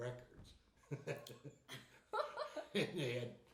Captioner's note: laughing